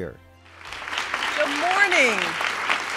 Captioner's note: applause and cheering